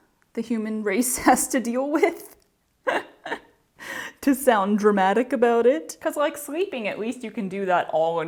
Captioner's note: laughter